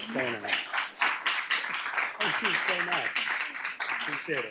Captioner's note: applause